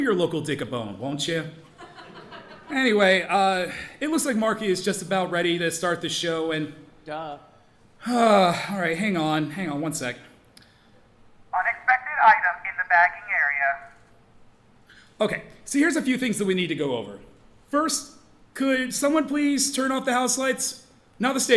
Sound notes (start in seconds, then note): 1.7 audience laughing; 8.0 sighs